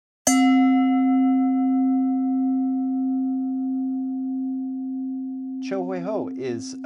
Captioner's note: bell ringing